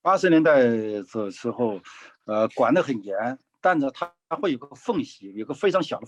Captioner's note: speaking in foreign language